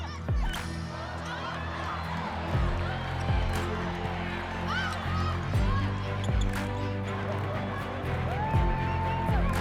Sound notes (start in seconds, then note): 0.0 dramatic music; 1.8 people cheering